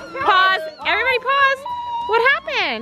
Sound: crying

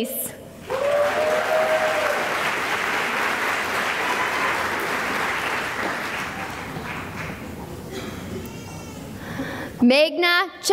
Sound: cheering and applause

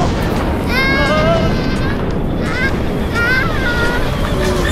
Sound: screaming

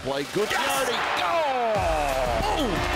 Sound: crowd cheering

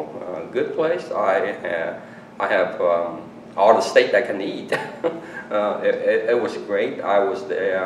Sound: laughs

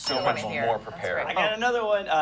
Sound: bell dings

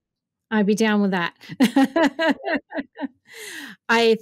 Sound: laughs

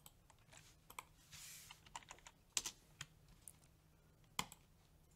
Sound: keyboard keys click

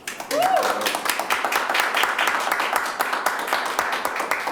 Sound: applause

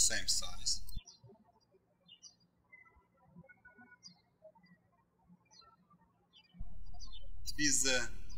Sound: birds chirping

